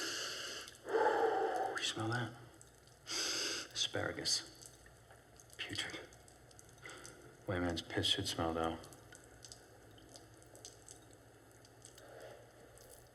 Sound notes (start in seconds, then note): 3.3 sniffs